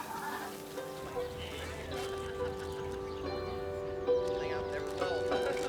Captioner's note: overlapping chatter; tranquil music